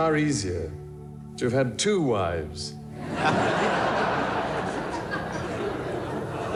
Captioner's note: audience laughing